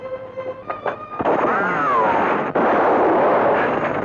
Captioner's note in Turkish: Tüfek sesleri